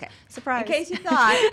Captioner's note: laughs